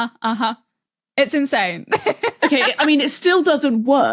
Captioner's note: laughs